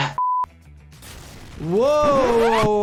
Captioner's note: gun fires